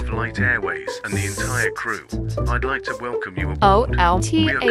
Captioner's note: whispers